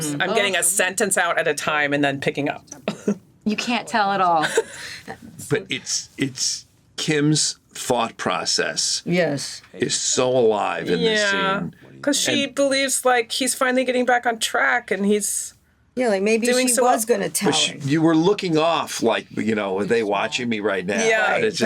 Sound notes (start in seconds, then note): 2.9 chuckles; 4.8 laughs